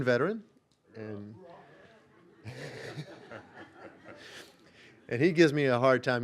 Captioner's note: audience laughing